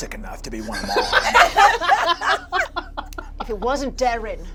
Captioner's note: all laugh